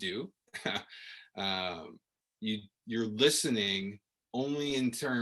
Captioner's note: laughter